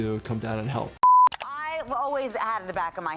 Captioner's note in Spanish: la pantalla emite un pitido